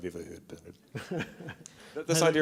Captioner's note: chuckles